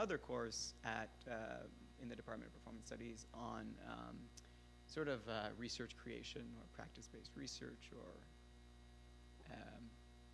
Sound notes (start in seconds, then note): none